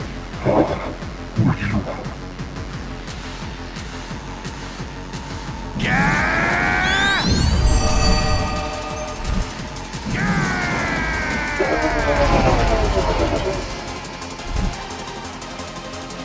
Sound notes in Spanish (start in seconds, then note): 5.5 Gritos; 9.9 Grita